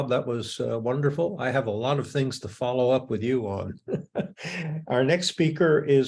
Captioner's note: laughs